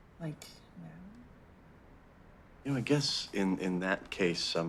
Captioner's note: none